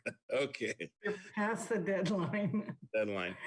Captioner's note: chuckles; laughs